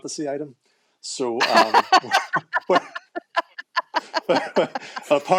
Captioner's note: laughter